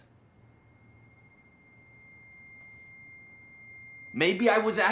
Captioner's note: screeching high-pitched tone